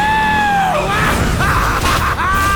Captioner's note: laughing